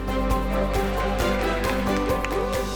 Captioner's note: cheering